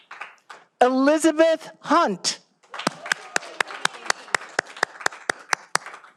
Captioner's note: all applauding